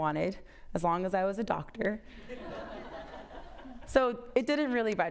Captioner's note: audience laughs